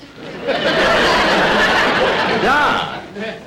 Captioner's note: audience Laughing